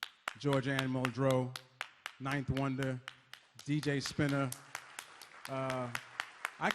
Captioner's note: audience claps